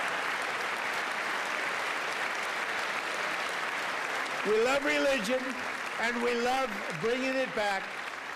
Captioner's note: applause